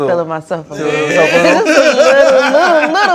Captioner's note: laughter